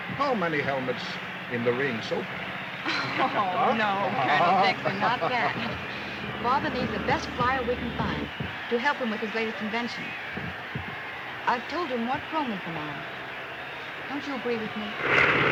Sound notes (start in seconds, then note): 2.8 laughs